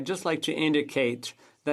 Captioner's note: speaking French